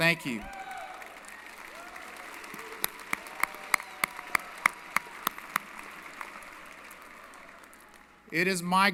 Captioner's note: applause & Cheering